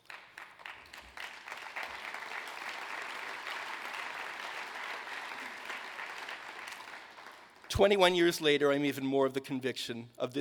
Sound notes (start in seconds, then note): 0.0 applause